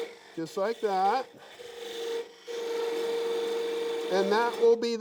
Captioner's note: wood rasping